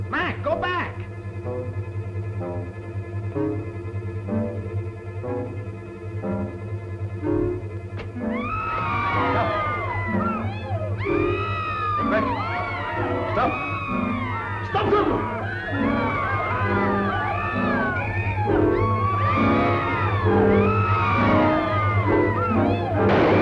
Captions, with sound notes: Mac, go back! [screaming] Stop! Go back! Stop! Stop them! [screaming]